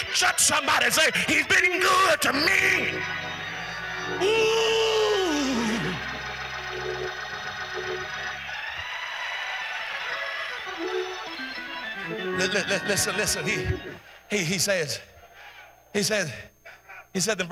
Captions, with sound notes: Jump somebody and say he's been good to me. Ooooooo. (cheering) Listen here, he said in verse number 7,